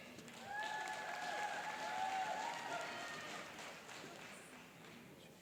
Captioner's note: cheering and applauding